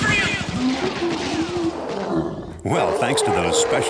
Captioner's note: gorilla growls